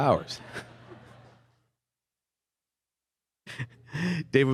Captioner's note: laughter